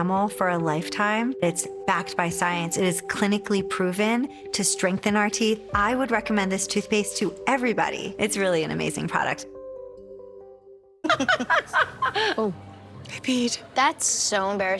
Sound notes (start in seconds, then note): 11.0 laughing